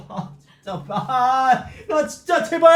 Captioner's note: choked up